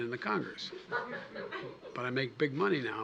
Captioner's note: laughter